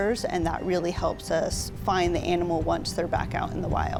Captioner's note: water splashing